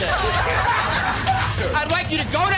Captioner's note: laughter